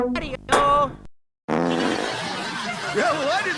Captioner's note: Luigi farts